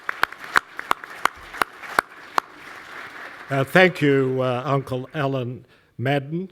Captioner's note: applause